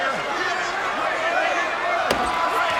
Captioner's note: crowd chattering; Austin thuds